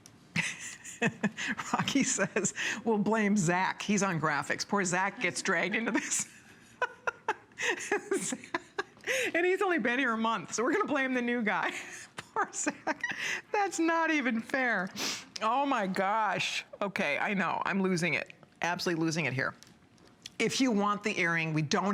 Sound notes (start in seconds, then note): 5.2 laughter